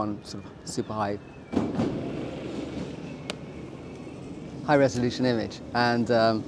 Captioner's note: loud wheels